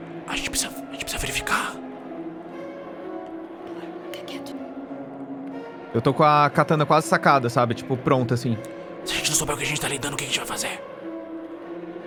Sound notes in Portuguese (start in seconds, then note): 0.2 sussurra; 3.7 sussurra